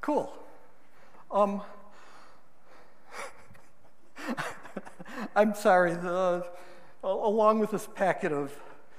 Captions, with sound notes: Cool. (laughing) I'm sorry, along with this packet of ...